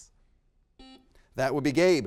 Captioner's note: buzzer beeps